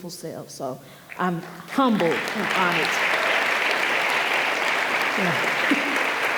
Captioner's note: audience applauding